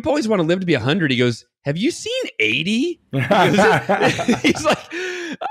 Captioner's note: both laughing